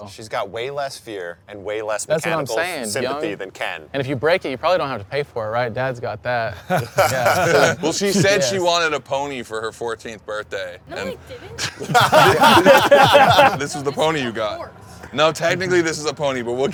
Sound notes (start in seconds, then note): 6.5 they laugh; 11.5 they laugh